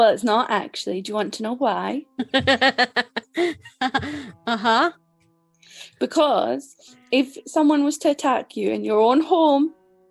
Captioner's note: laughs